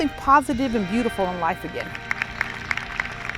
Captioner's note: cheers and applause